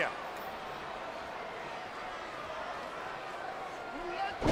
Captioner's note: crowd murmuring